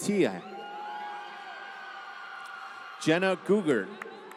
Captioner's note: applause